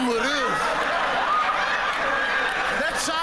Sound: laughter

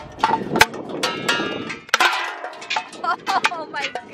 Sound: clanking

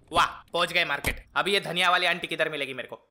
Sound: none

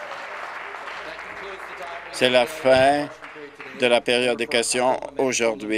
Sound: applause

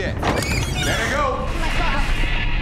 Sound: door creaking

